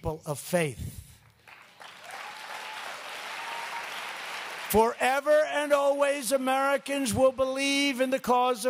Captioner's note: applause